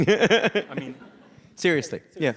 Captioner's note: audience laughs